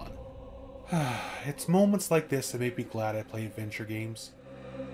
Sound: sighs

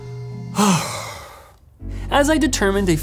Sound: exhales sharply

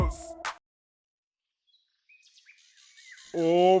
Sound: bird voice

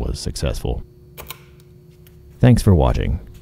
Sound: switch clicks, transformer hums

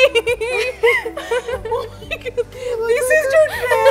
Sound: laughing

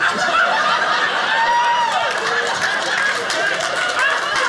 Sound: audience cheering; audience laughing

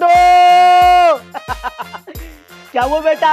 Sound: laughing

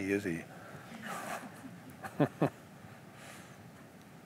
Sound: laughter

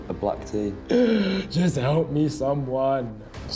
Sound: gasps

